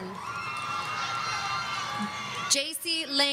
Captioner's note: audience cheering